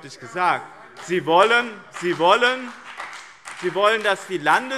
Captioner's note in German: Beifall BÜNDNIS 90/DIE GRÜNEN und CDU - Zurufe